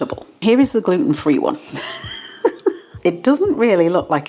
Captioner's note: laugh